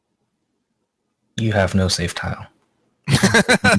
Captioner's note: laughing